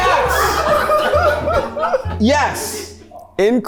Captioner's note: everyone laughs